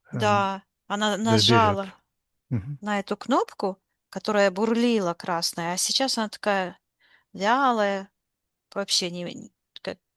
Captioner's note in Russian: откашливается